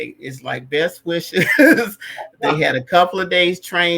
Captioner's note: laughter